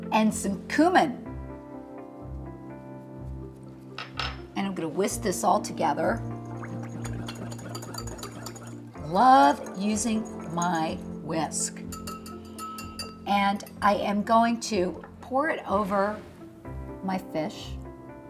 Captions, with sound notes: and some cumin. And I'm gonna whisk this all together. (liquid sloshes) (metal clanks against glass) Love using my whisk. And I am going to pour it over my fish.